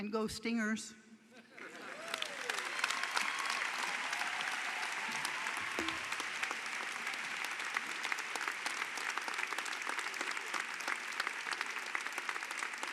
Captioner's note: applause